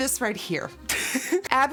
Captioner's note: laughter